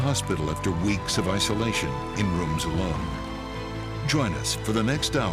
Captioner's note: cheering and applauding